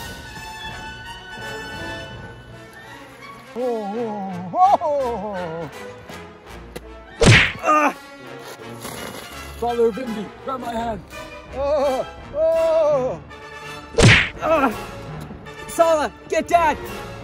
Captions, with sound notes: *more painful sounds* Ah! Father of Indy! Grab my hand! *even more painful sounds* Ah! Sallah get Dad!